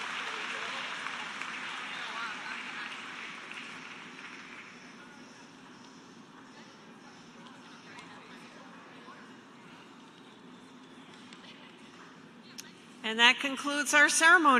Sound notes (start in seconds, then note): 5.5 cheers and applause